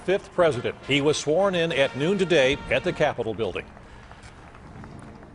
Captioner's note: applause